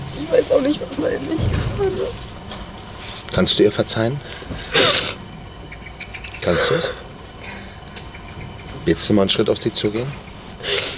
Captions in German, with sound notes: "Ich weiß auch nicht, was in mich gefahren ist." "Kannst du ihr verzeihen?" (Sie schluchzt.) "Kannst du's?" "Willst du mal einen Schritt auf sie zugehen?"